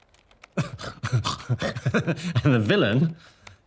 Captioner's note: Danny laughs